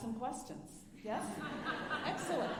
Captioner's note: alumni laughing